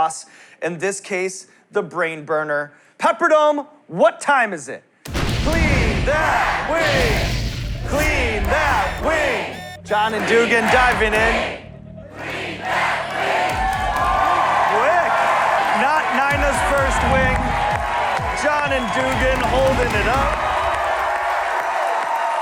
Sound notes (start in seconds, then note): 4.9 crowd chanting "Clean that wing!"; 12.1 chanting continues; 14.1 cheers and applause